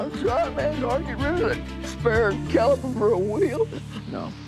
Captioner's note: sobs